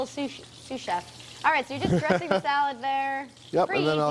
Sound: laughter

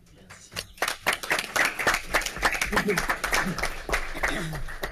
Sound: audience applauds

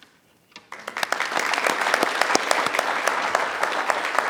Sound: audience applauds

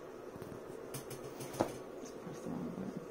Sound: chair squeaking

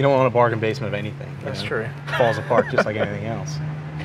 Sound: laughs

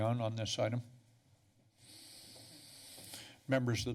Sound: breaths in

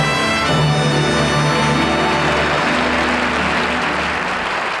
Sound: audience applauding

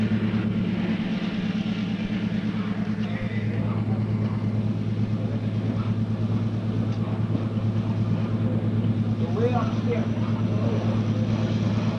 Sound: sound of the train moving

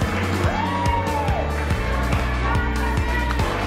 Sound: crowd cheering

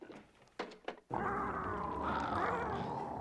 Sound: whimpering

